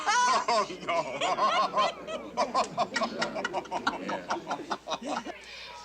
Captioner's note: all laugh